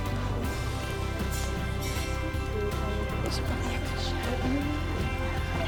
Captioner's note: people chattering